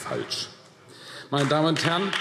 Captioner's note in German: Beifall AfD